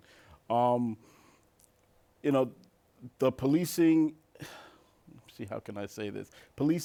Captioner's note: sighs